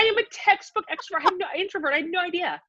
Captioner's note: laughs